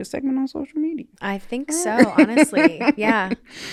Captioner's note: laughing